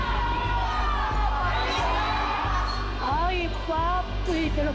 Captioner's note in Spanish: Griterío